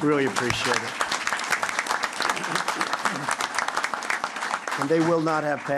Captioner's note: applause